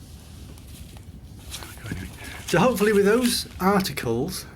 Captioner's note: paper rustles